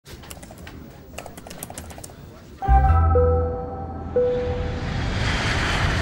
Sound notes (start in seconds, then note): 1.0 typing; 4.3 airplane taking off